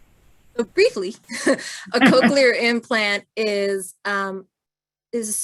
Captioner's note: laughter